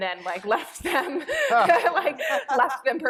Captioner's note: laughter